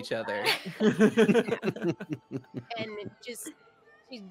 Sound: multiple chuckling

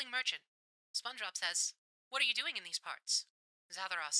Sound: radio Filter

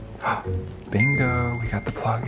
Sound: gasps; bell dings

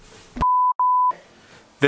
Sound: beeping

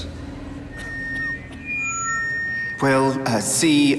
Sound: microphone feedback

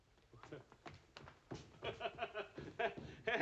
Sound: giggles nervously

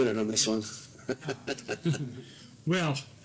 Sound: laugh

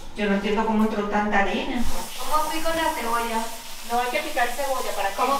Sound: speaking in foreign language

